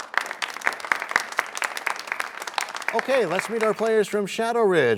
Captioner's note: applause